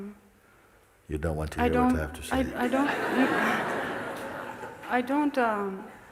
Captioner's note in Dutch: gelach